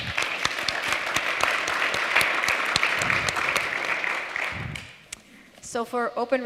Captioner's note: applause